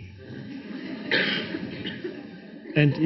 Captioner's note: audience laughs